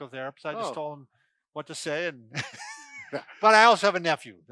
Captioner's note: laughs